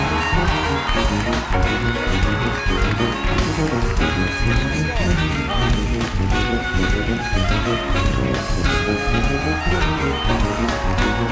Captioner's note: cheers and applause